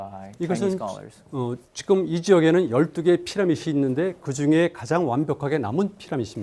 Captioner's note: speaking in Korean